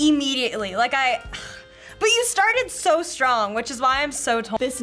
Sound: sighs

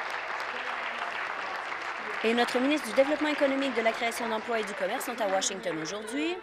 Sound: applause

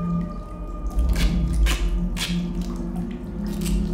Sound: the sound of duct tape

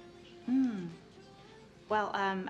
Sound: clears throat

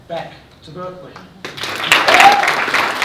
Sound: applause

